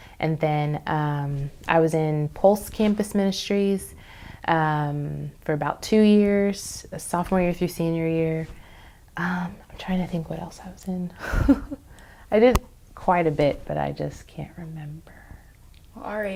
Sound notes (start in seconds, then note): 11.8 laughs